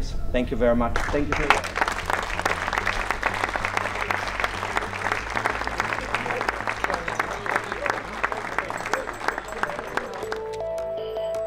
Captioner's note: applause